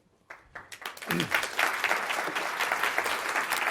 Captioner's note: audience applauds